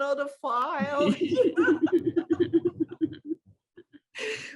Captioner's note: laughter